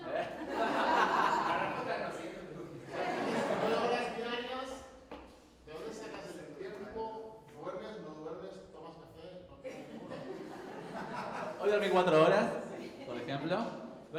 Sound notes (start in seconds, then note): 0.0 he and the audience laugh; 3.2 crowd laugs; 9.7 crowd chuckles